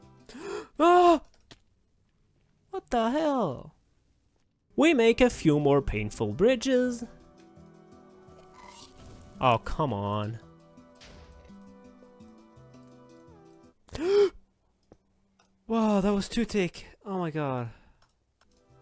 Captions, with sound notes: *gasp* "EUAAGH!!" "...what da hell" We make a few more painful bridges "oh come on." *gasp* "whoaah that was 2 ticks" "oh my god"